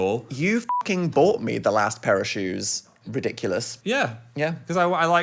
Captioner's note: beep